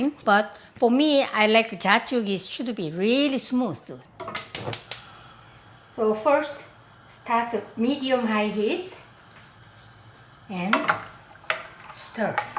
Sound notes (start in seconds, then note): 4.4 burner ignition clicking